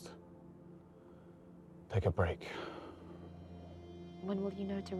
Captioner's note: sighs